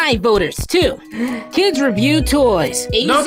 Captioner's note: inhale